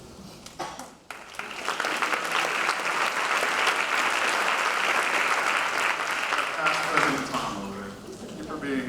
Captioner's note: applause